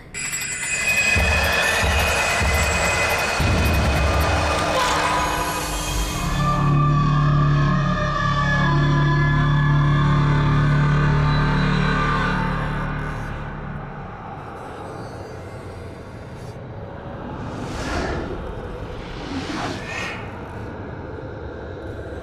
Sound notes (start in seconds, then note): 0.2 sudden screeching music; 4.8 monster wailing; 8.3 soft eerie music; 18.3 soft eerie music continues